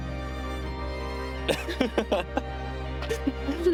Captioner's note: laughs in amazement